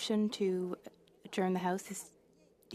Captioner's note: speaking French